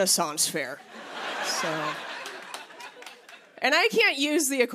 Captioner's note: light laughter